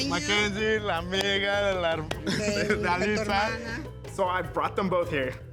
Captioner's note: speaking Spanish